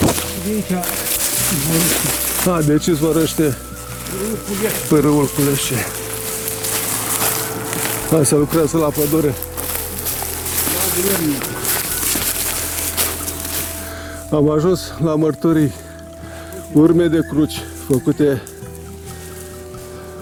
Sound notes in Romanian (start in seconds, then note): 10.3 se aud zgomote de tractor